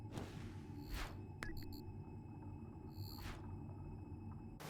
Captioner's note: electronic beeping